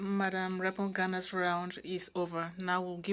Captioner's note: speaking French